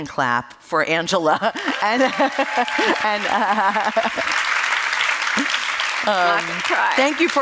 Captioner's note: applause